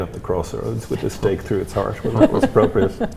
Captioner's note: laughs